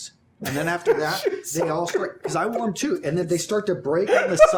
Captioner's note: laughs